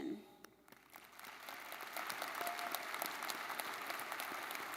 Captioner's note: everybody clapping